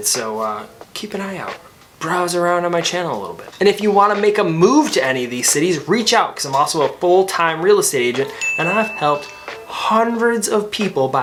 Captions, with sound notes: So, keep an eye out. (soft electronic music) Browse around on my channel a little bit. And if you wanna make a move to any of these cities, reach out, 'cause I'm also a full-time real estate agent, and I've helped (graphics ding) hundreds of people